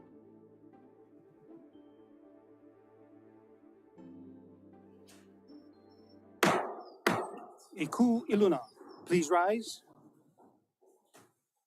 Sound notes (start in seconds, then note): 6.4 gavel bangs twice